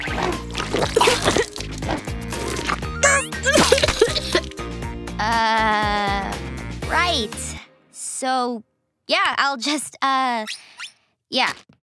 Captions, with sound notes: [slurping] [coughing] Uh, right. So, yeah, I’ll just, uh… yeah.